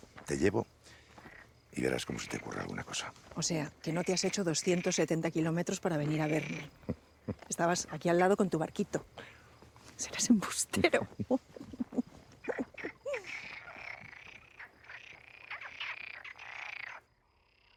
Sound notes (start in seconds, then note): 7.2 chuckles; 10.7 chuckles